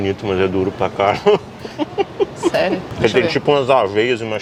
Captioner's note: laughs